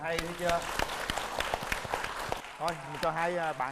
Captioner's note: applause